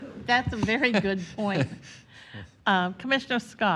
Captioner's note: laughter